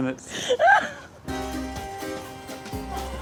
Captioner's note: laughs; laughs